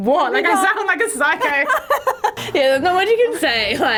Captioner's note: laughing